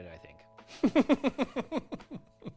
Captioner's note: laughing